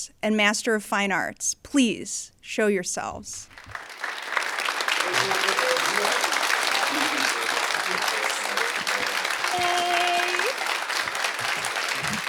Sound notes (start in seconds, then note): 3.5 audience applauding